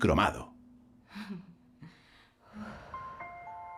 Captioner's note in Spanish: mujer suspira